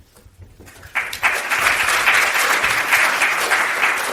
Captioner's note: audience applauds